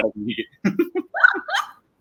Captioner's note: laughs